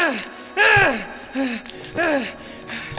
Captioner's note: screams